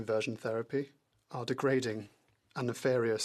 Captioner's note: speaking French